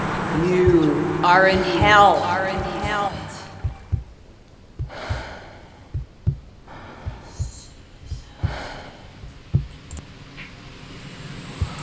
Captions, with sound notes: You are in HELL (Sound of heartbeat, frightened breathing)